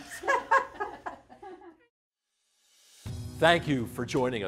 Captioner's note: laughing